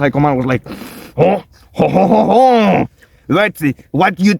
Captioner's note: warms up heavy French accent; in a stereotypical French accent